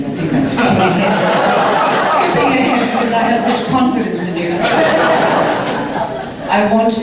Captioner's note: audience laughter as she corrects her words; more laughter